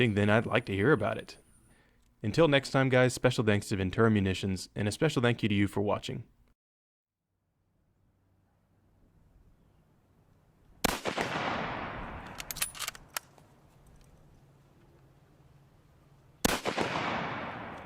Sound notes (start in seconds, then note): 10.8 gunfire